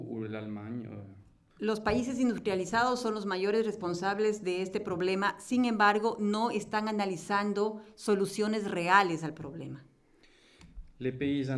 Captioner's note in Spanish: Español